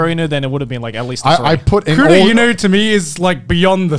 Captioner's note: murmurs